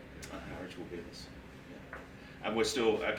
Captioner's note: speaking faintly